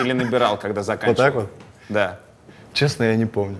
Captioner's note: laughs